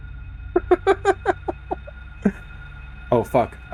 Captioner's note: scared cackling